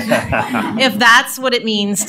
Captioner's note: laughing